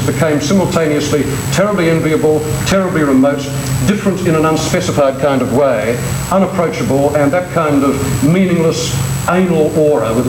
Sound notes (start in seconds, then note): none